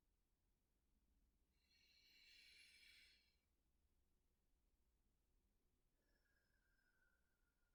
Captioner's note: takes slow, long deep breath in and out